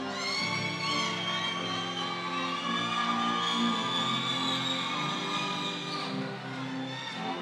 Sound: audience cheering continues

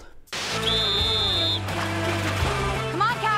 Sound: whistling

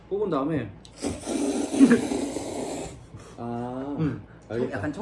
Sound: inhaled

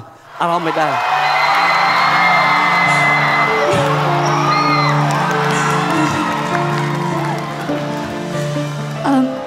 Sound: cheer and applause

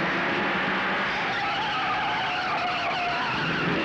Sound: tires squealing

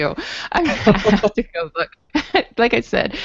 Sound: chuckles

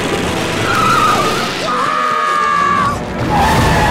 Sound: screaming

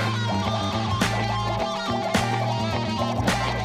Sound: dinging

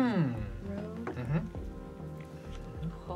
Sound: pensive noises

